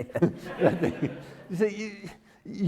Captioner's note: everyone laughing